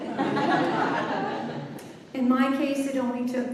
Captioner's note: laughter